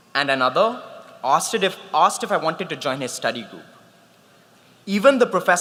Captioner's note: none